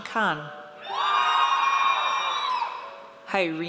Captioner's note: audience cheers